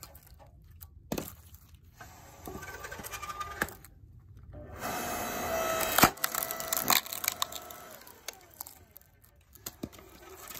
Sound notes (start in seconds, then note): 0.0 electric wood splitter sound; 4.6 electric wood splitter sound